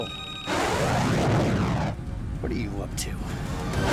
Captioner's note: aircraft whooshing